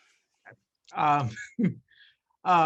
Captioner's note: laughs